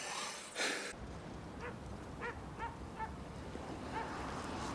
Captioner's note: dog barking